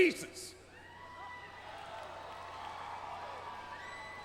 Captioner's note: crowd cheering